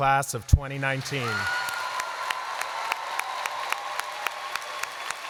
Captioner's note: applause